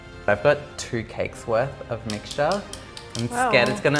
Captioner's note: none